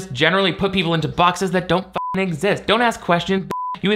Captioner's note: beep; beep